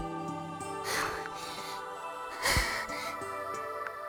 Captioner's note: huffing and puffing